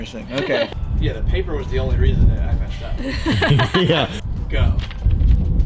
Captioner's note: laughs